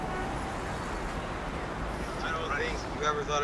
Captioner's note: traffic sounds